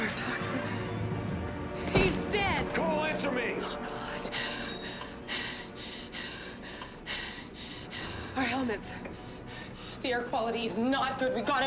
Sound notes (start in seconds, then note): 4.8 device beeping; 5.1 Susan panting